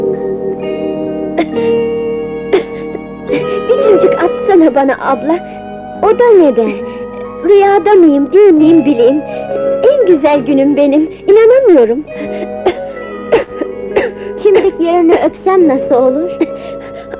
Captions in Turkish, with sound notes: [Öksürükler] - Bir çimdik atsana bana abla! - O da neden? - Rüyada mıyım değil miyim bileyim! En güzel günüm benim, inanamıyorum! [Öksürükler] Çimdik yerine öpsem nasıl olur?